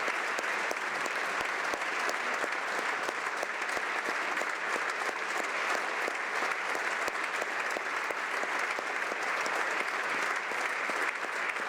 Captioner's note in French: applaudissements